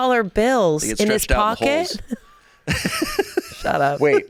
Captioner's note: laughs